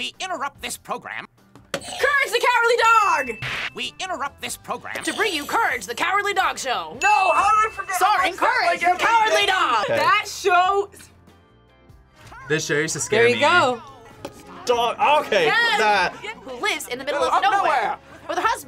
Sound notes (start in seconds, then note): 3.0 bell rings; 3.1 buzzer rings